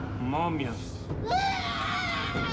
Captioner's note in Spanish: gritando